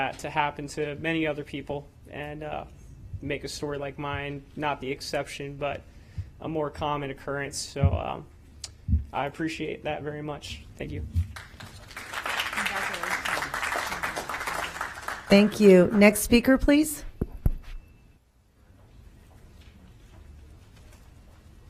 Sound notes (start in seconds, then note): 15.9 applause